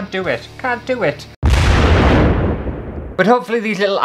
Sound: explosion!!

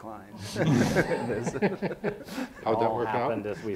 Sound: people laughing

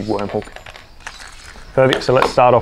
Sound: fishing hook clinks

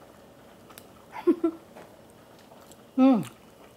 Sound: laughs

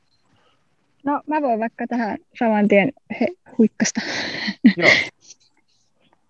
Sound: laughs

